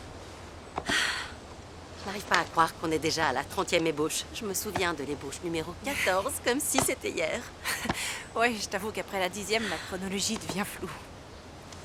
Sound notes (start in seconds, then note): 0.8 sighs; 7.6 laughing